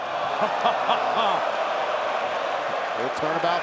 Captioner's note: Graves laughing